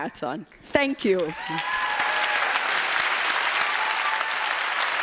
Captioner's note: applause